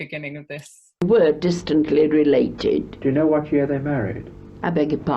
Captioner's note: and Interviewer's voice from recording